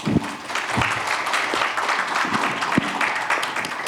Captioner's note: audience applauds